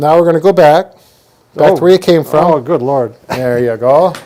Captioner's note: laughs